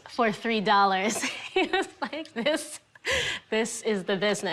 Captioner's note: laughing